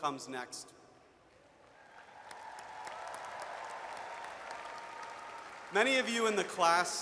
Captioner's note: audience cheers and applauds